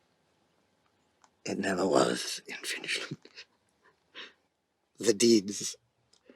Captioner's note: chuckles